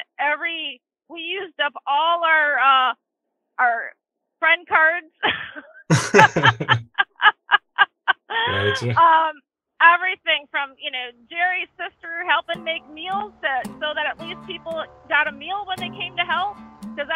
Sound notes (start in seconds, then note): 5.8 chuckles; 5.9 laughs